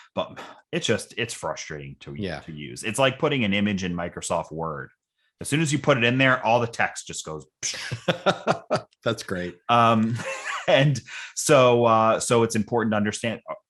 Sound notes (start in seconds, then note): 7.7 laughing